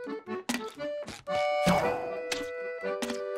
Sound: popping

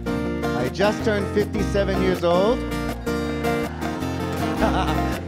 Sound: chuckles

